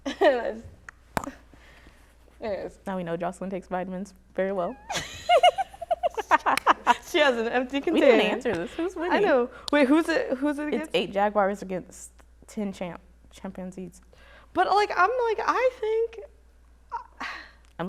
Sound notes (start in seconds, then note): 4.8 laughter